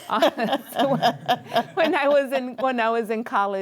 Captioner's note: all laughing